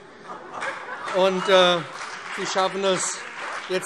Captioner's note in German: Heiterkeit und Beifall BÜNDNIS 90/DIE GRÜNEN und CDU